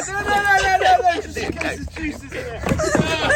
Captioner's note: and friends laughing; all laughing